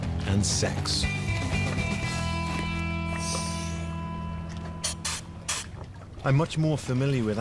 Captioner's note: air hissing